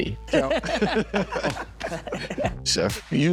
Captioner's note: laughing